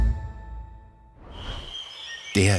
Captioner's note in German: Tiergeräusche